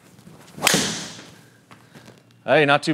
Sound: golf ball snaps

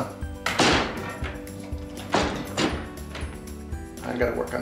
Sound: door clanking

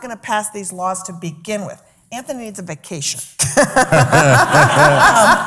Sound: laughs

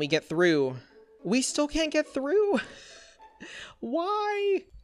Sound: chuckles

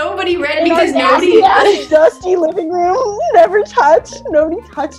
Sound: laughs

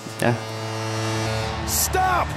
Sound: timer buzzing

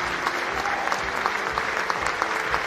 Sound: cheering and Applause

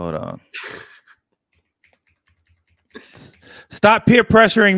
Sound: laughs

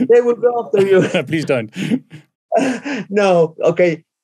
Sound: laughs

